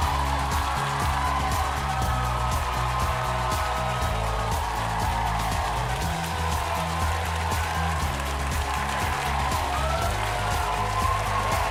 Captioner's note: cheers and applause